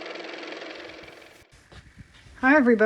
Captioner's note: car motor